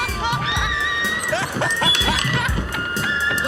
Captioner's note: laughs